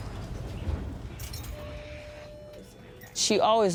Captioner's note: bus doors beeping